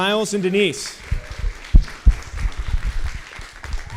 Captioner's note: applause